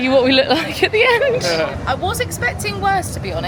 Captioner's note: laughing